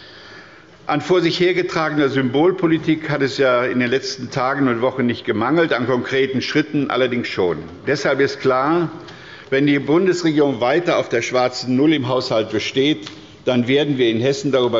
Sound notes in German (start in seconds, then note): none